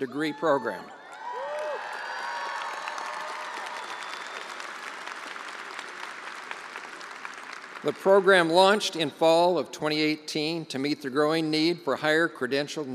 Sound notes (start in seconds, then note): 5.6 attendees cheering and applauding